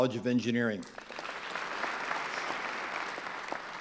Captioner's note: clapping